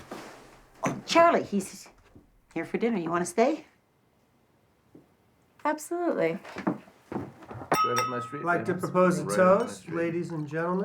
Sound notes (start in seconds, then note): 7.7 clinking on glass